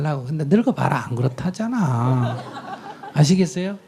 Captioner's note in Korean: 청중 웃음